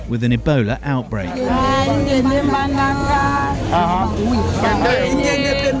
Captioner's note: non-english speech